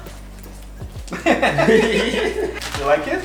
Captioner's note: both laughing